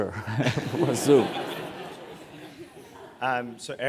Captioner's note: laugh